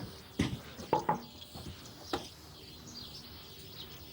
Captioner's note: knocking